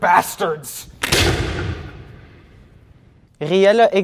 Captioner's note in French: Bruit de coup de feu